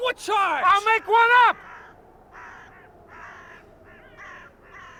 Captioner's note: birds cawing